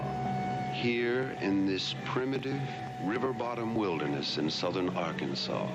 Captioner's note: voiceover